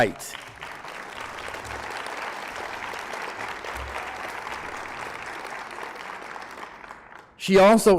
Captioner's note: applause